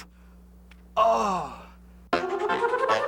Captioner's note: groans